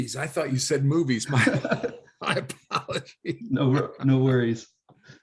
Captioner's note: laughing